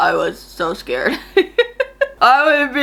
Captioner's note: laughs